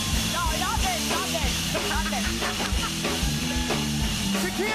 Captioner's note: cheers and applause; laughs